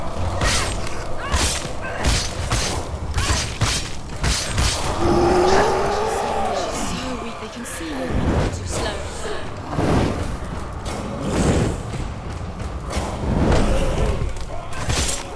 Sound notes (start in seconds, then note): 4.7 roar